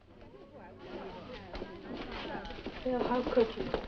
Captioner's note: students chattering